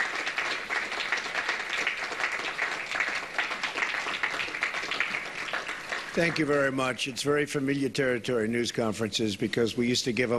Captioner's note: applause